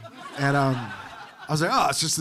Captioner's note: audience laughing